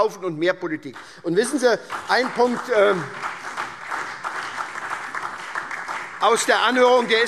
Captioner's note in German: Beifall SPD, DIE LINKE und vereinzelt BÜNDNIS 90/DIE GRÜNEN